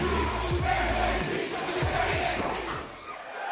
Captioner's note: fans chanting